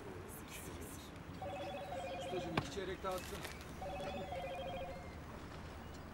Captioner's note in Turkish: Telefon zili sesi